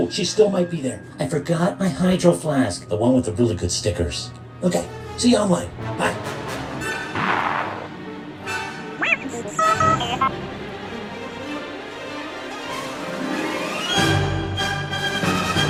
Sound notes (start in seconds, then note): 8.7 BB-21 speaks gibberish; 10.2 suspenseful orchestral music